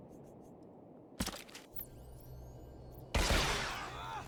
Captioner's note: explosion